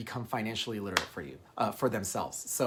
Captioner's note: hand slapping